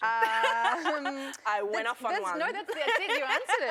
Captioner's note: laughter